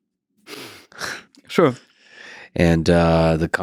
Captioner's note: Lex lightly chuckles